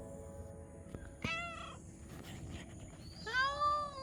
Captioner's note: cat meowing